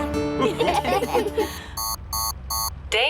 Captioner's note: laughter; beeping